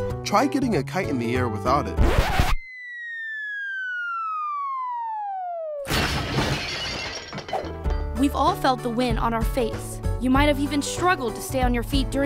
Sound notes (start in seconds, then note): 2.3 playful music; 6.2 glass clinking